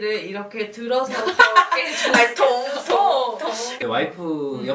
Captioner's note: sound of legs jumping